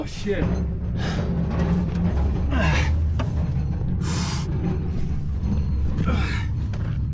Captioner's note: cart rattles; grunts